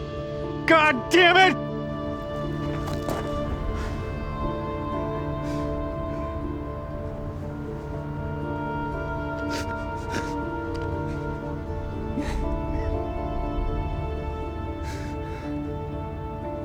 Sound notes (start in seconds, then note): 10.3 Bailey sobbing